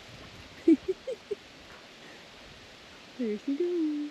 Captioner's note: laughing